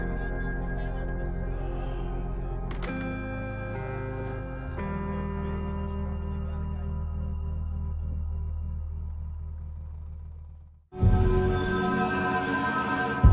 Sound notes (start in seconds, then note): 0.8 sighs; 1.0 cellphone thuds